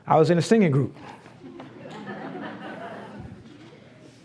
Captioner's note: laughs